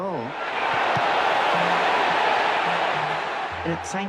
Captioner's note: crowd cheers